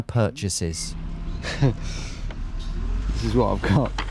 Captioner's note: laughs